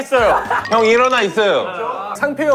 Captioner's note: mocking